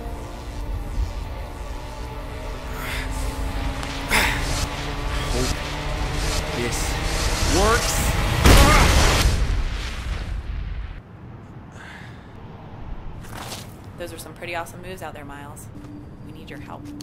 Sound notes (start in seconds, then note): 8.2 explosion